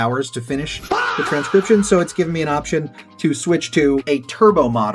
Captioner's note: screaming sound